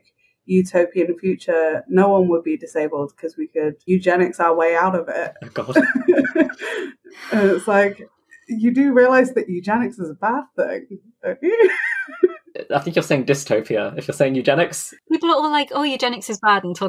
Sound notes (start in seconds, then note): 6.5 sighs deeply; 11.5 laughs